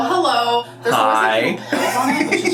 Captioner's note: laughs